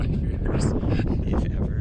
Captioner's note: chuckles